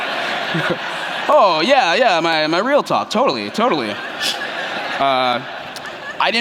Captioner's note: laughter